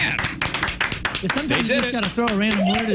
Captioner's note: clapping